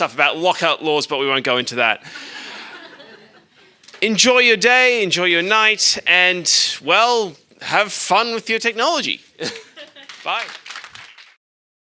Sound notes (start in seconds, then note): 2.3 audience laughing; 9.5 everyone clapping